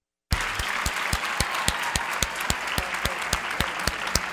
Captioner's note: clapping